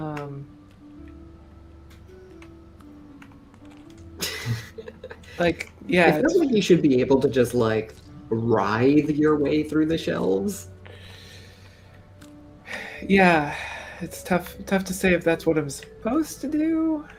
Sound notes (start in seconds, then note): 4.2 laughter